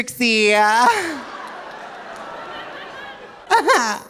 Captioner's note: audience laughing